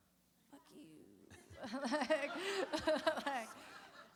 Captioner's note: laughter